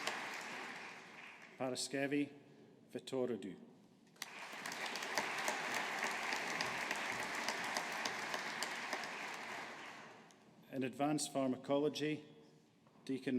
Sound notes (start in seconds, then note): 4.2 audience applauding